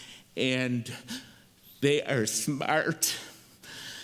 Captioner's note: none